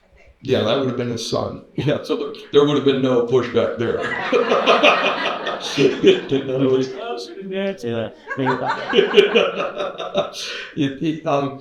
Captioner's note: laughter